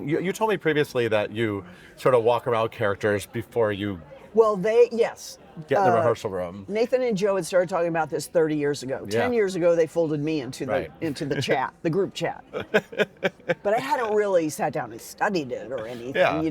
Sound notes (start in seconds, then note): 12.5 laughing